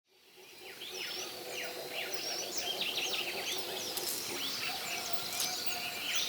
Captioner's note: rain forest noises